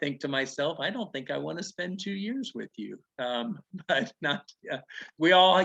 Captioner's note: chuckling